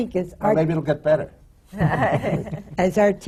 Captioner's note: laughter from the panel